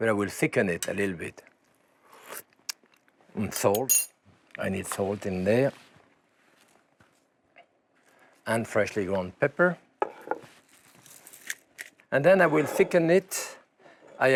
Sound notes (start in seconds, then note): 2.1 sips